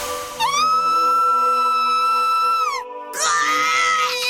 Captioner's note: shriek; pained cry